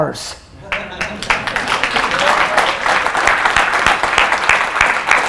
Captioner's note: audience laughter and applause